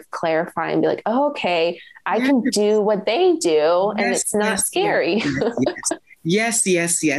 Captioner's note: laughs